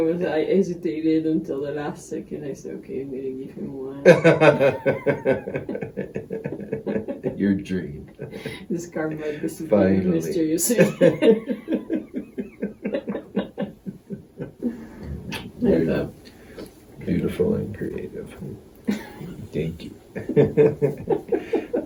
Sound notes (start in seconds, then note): 4.0 laughters; 10.6 laughters; 20.1 laughters